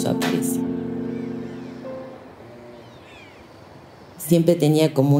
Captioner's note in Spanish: canto de pájaros, murmullo de personas